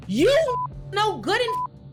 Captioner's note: beep